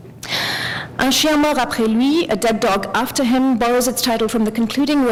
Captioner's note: french